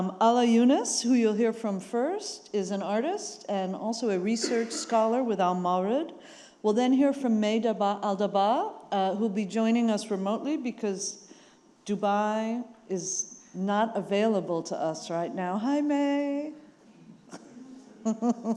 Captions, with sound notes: Ala Younis, who you'll hear from first is an artist and also a research scholar (attendee coughing) with al Mawrid. We'll then hear from May Al-Dabbagh, who'll be joining us remotely, because Dubai is not available to us right now. Hi, May. (laughs)